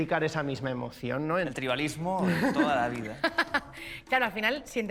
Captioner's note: laughs